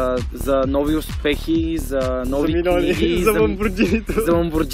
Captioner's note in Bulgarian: със смях